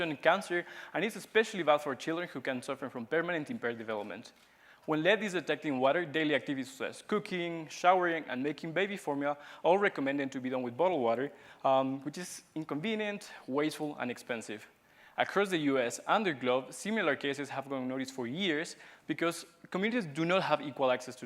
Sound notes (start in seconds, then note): none